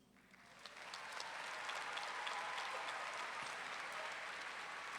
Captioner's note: audience clapping and cheering